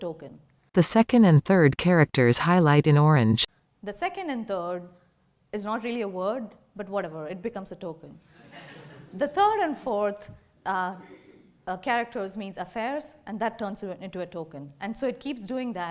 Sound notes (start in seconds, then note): 8.3 laughter